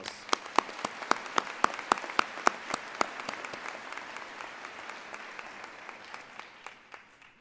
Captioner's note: applause